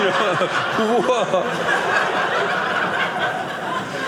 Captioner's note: audience laughing